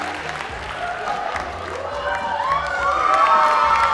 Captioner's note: applause